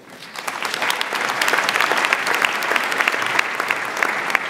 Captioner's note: audience applauds